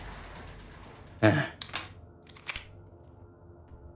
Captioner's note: sigh